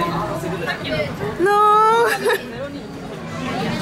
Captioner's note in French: rire